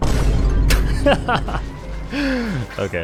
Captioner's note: laughs